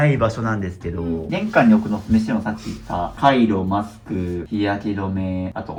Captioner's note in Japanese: 鼻息